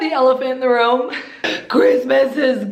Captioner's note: crying dramatically